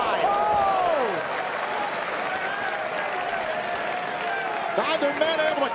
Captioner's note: crowd cheering